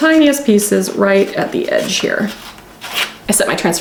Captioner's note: transfer ripping